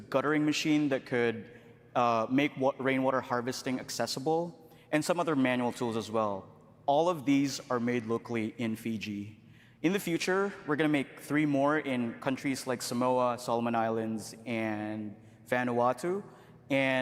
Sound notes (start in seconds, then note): none